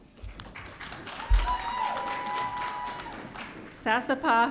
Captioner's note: audience cheering